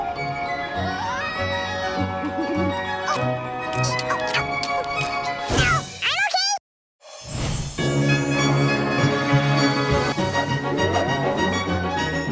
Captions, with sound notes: Whoa! [groaning] Ow, I'm OK! [Christmas music playing]